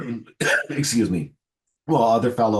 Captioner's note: coughs